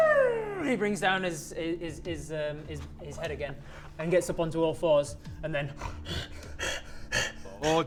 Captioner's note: heavy panting